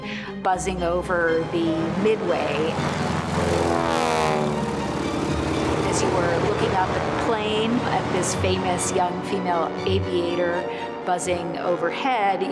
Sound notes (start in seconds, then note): 2.3 airplane whirs